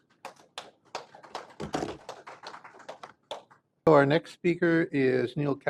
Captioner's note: applause